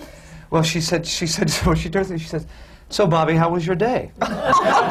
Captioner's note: laughs; laughter